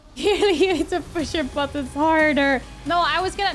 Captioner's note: cough